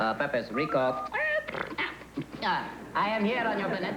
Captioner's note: beep beep